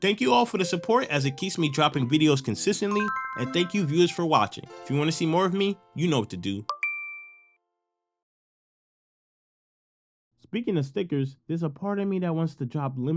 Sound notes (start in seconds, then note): 6.7 beep